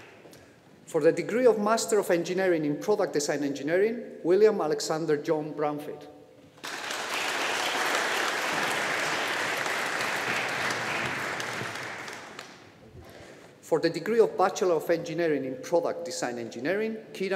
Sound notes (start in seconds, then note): 6.6 audience applauding